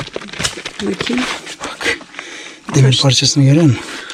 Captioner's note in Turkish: homurdanır